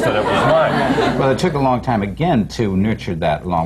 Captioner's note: laughter